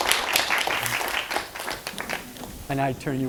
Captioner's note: applause